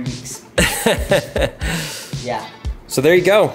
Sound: laughs

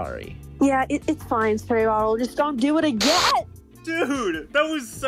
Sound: zap

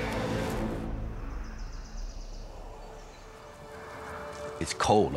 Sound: birds chirping

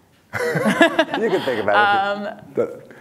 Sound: laugh

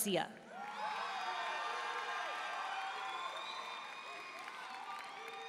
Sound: audience cheering and applauding

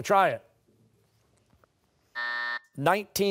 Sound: buzzer

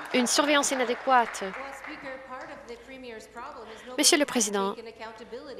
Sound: some Applause

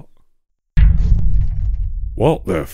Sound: clunk

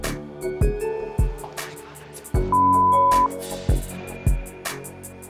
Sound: beep

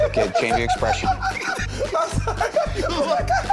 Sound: laughter

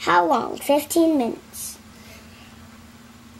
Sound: none

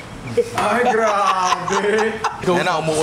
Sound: laughs

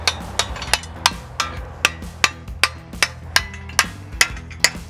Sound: hammer hitting metal

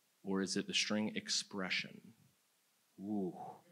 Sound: none

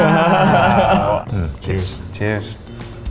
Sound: laughter

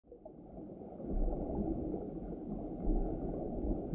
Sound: water swishing

